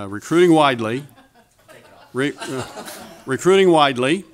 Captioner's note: audience laughter